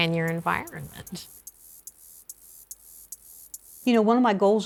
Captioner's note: grasshopper buzzing